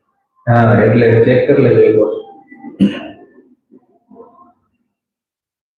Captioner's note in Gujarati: ગળું સાફ કરે છે